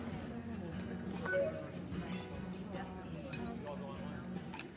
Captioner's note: computer chimes